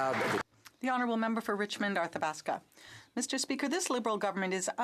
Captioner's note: some Applause